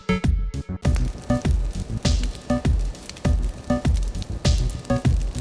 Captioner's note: wood crackling